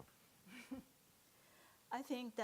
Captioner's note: chuckles